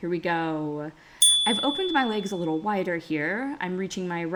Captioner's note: chime